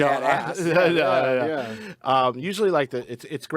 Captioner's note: group chattering